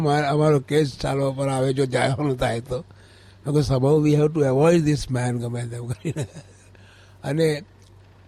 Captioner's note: laughs